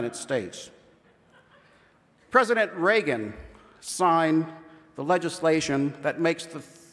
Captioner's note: laughter